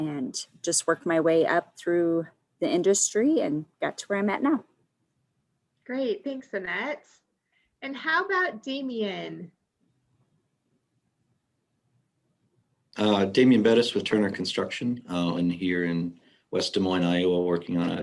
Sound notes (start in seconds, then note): none